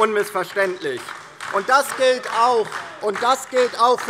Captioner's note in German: Beifall DIE LINKE